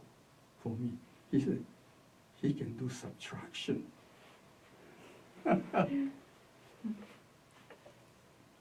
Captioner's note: laughs